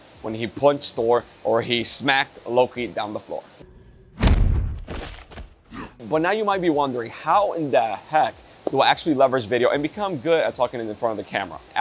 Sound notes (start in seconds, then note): 4.1 thud